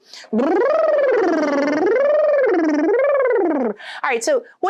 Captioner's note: blowing raspberries